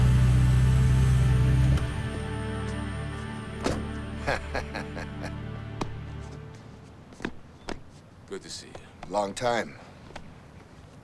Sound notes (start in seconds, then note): 4.0 Dash laughs